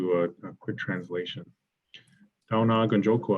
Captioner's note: speaks foreign language